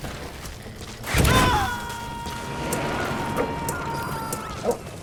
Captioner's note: character screaming